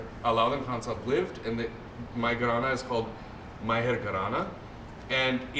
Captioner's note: non-english